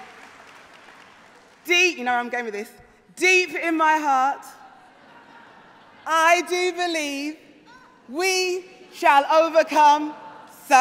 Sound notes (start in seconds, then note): 3.2 applause; 4.6 cheering